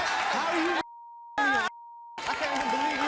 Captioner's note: beep